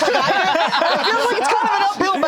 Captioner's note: all laughing